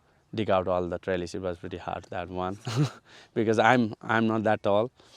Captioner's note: chuckles